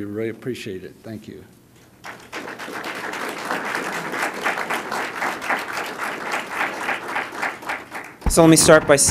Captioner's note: applause